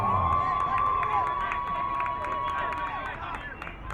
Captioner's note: crowd cheering